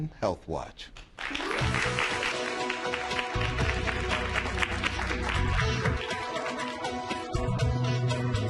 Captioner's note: applause